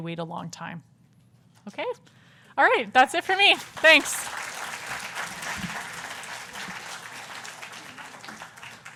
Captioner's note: applause